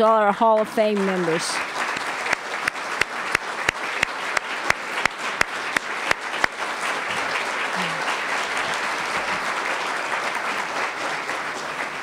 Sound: applause

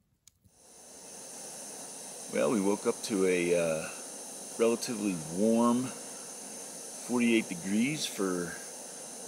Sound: stove gas hissing

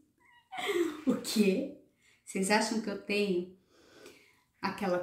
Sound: laughs

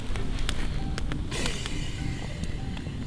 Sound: hissing sound

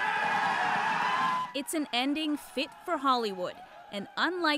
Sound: cheers and Applause

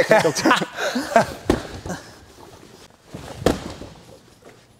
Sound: heavy thuds

